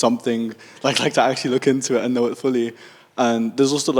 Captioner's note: laughs